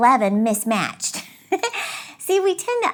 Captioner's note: laughs